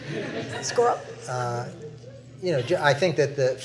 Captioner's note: laughter